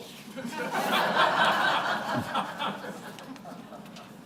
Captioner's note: laughter